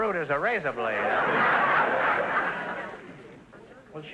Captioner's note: audience laughter